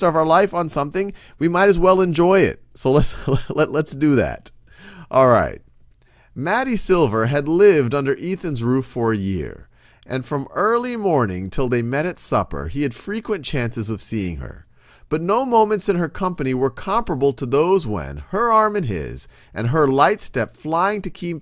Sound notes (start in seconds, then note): 3.0 laughs